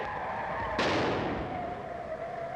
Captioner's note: explodes